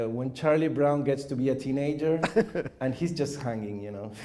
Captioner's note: chuckles